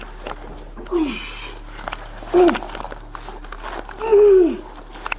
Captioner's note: grunts uncomfortably